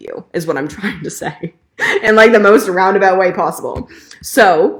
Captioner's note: chuckling